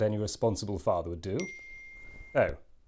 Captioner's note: ping